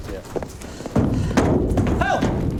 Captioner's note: rattling pen walls